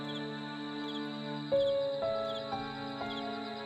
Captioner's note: crickets Chirping; somber Piano Music Continues